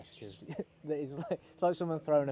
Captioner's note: laughs